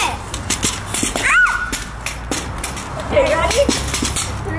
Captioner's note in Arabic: صراخ